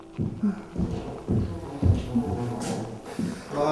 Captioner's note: man hums